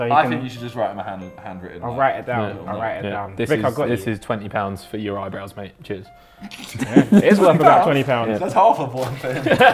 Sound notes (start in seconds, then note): 6.4 laughs